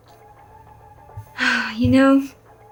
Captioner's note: sighs